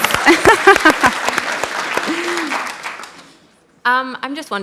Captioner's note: applause